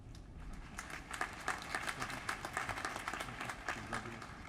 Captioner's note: applause